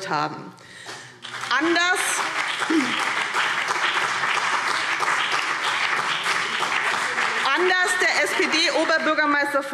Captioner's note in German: Beifall BÜNDNIS 90/DIE GRÜNEN und CDU